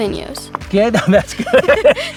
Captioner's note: both laughing